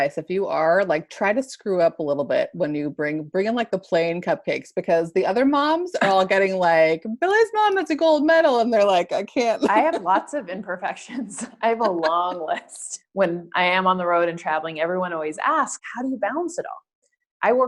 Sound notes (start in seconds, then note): 11.6 laugh